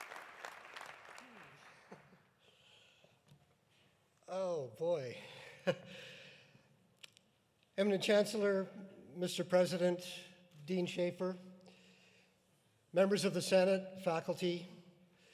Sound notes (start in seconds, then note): 2.0 chuckles; 6.1 chuckles